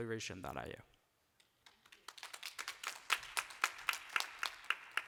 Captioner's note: applause